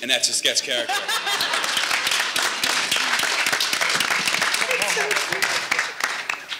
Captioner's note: audience laughing and applauding